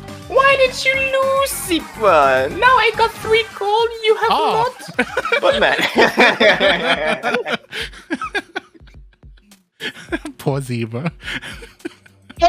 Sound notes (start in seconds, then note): 7.5 laughing; 11.0 chuckles